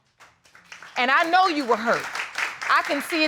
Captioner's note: audience applauding